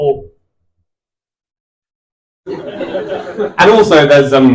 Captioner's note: silence